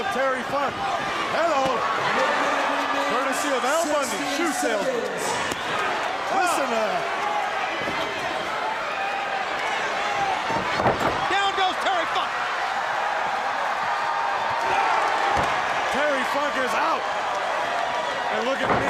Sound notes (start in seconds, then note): 6.8 crowd chatter; 12.4 crowd cheering